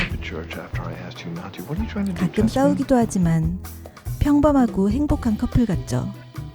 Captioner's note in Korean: 콧방귀